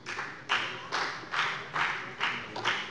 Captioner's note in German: Beifall bei der FDP und bei Abgeordneten der CDU